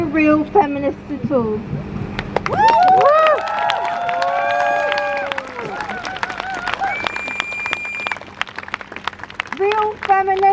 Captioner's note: crowd cheers